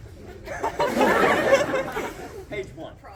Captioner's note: crowd laughs, coos; crowd laughs